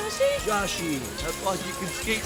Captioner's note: laughs; pop music